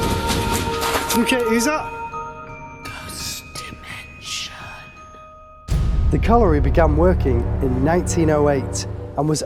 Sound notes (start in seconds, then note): 3.3 whispers